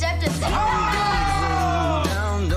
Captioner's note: men cheer